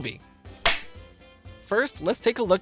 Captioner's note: film clapper noise